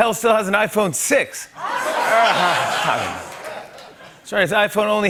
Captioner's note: laughter